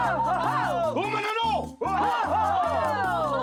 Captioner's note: foreign language